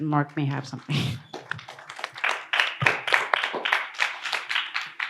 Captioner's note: audience applauds